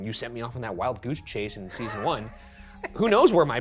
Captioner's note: chuckling